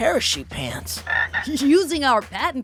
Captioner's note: croaking